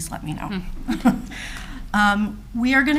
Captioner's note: speakers laughing